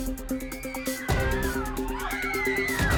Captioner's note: cheering